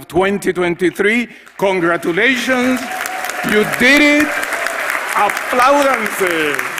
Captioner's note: applause